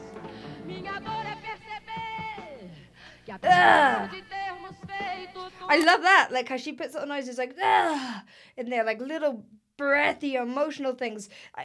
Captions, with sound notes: (grunts) I love that, how she puts those notes, it's like (groans), and they're like little breathy, emotional things.